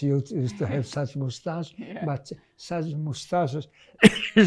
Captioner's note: coughing